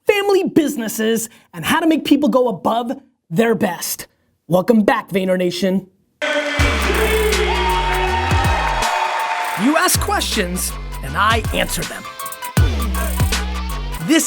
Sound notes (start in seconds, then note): 6.3 voiceover; 8.1 audience cheering; 11.3 electronic music